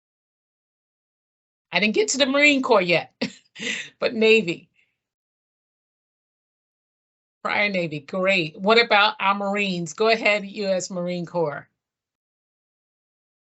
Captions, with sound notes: I didn't get to the Marine Corps yet, [chuckle] but maybe. Prior Navy. Great. What about our Marines? Go ahead, U.S. Marine Corps.